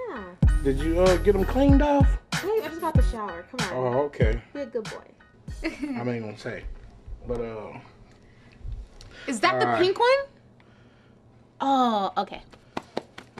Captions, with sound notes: - Yeah. - Did you get 'em cleaned off? - I just got out the shower, come on. - Oh okay. - Be a good boy. (giggling) Is that the pink one?